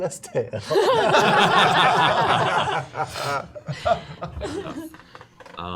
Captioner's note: laughter